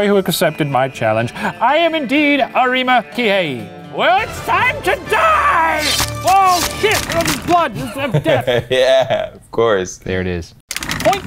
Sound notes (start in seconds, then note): 5.7 swords slashing; 7.5 laughing